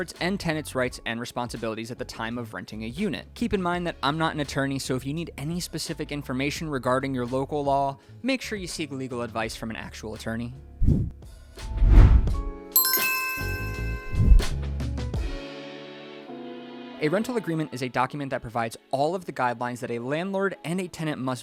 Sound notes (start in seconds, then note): 11.1 whooshing and chiming; 12.7 upbeat music